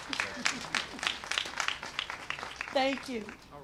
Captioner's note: applause